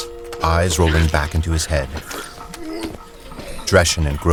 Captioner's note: bodily convulsions